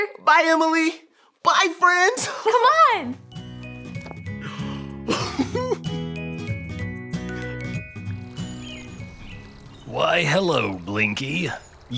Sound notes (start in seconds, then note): 3.0 bright music; 5.0 guy giggles